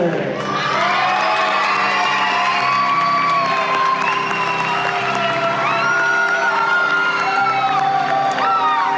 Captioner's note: cheers and Applause